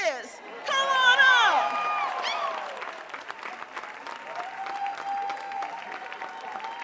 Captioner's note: audience cheering and applauding